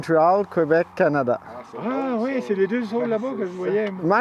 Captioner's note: speaking french